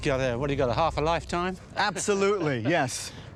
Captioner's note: laughs